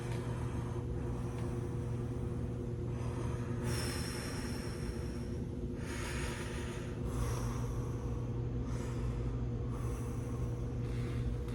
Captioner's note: breathing